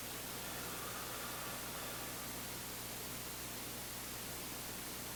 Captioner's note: both exhaling